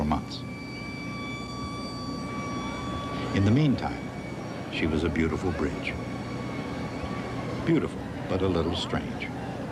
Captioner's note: sirens wailing